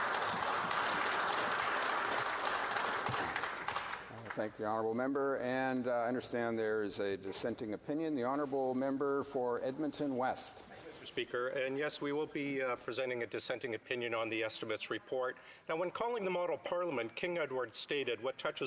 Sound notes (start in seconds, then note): 5.4 some applause